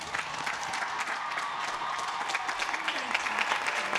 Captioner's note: applause